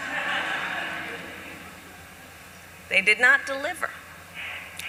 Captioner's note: laughter